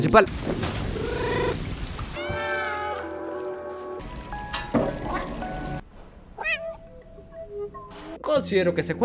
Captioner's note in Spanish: Maullidos